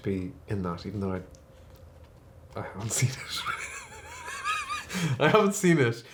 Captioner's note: laughs